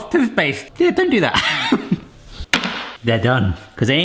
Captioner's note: chuckling